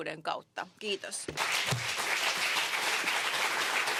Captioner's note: applause